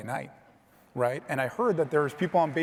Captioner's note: audience applauding